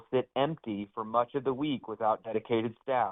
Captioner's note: audio cutting in and out